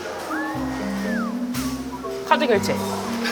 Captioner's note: hesitant